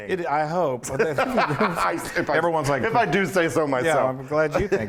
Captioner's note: laugh